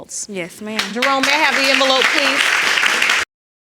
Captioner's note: audience clapping